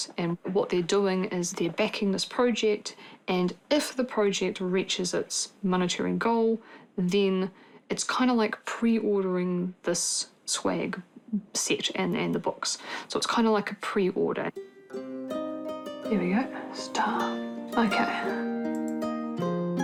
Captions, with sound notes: and what they're doing is they're backing this project, and if the project reaches its monetary goal, then it's kinda like pre-ordering this swag set and the books. So it's kinda like a pre-order. There we go. (WHISPERS) It's done. OK. (MOUSE CLICKS)